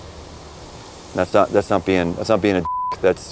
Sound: beep

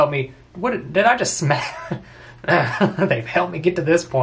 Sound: laughs

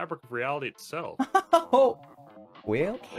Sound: laughing

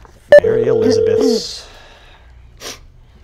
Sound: phone Ringing

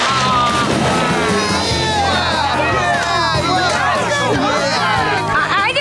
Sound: cheering

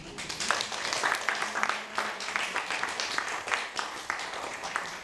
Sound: audience applauding

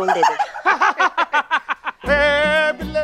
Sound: laughter

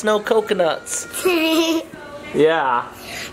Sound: laughs

